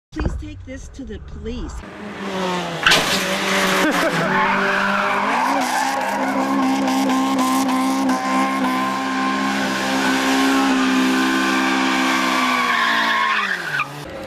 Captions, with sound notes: please take this to the police (laughing)